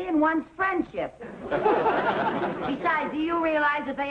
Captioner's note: audience laughing